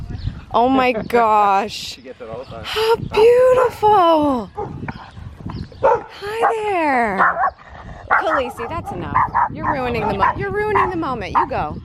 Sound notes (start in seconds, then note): 5.8 dog barking; 8.0 dog barking and growling